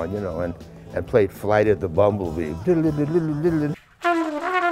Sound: imitates horn

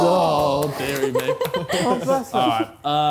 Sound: clapping

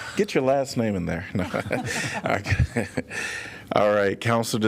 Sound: laughter

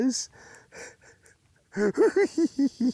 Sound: giggles

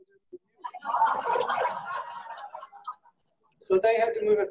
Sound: laughing

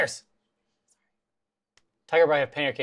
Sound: whispers

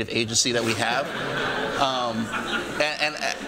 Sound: laughter

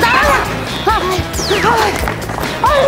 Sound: short of breath

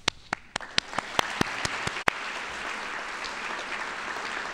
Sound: audience applauding

